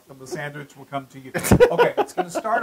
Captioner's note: laugh